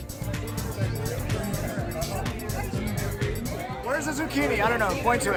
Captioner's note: bar patrons talking loudly